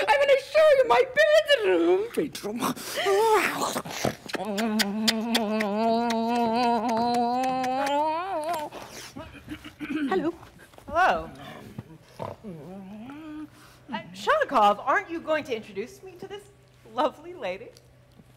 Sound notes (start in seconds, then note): 3.2 Sharik loudly kissing; 3.7 Sharik lightly snorts; 9.2 Professor softly clears throat